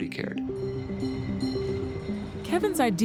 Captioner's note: bell chiming